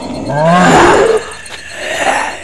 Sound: roar!!!

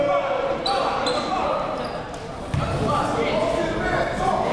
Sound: crowd talking

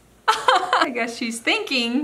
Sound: laughing

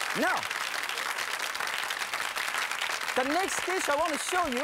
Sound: applause

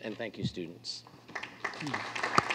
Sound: applause

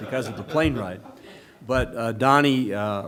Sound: laughter

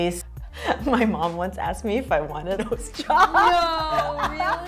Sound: laughs

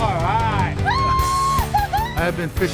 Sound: woman cheers

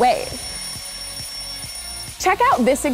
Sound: alarm ringing

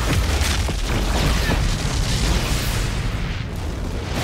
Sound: large explosion

